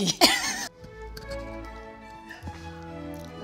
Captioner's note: both laugh